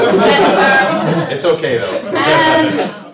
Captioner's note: laughter